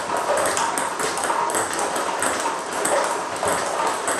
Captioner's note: ball ping pong hitting continues